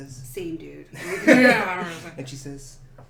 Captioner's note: laughter